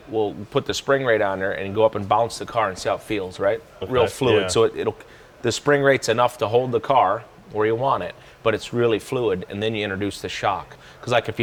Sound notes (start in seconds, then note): none